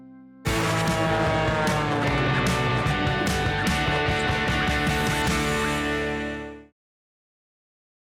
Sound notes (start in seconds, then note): 0.4 airplane engine; 0.4 upbeat guitar